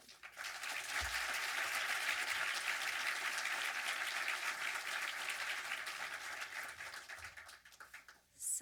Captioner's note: audience applause